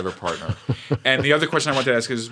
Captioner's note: laughter